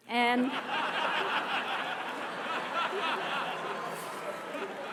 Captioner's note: audience laughter